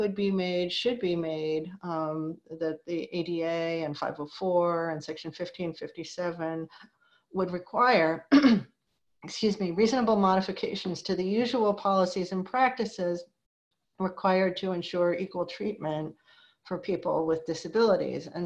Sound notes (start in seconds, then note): 8.3 clears throat